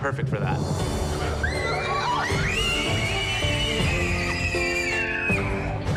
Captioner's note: excited screaming